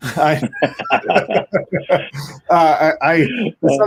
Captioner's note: laughing